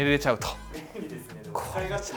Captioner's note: laughs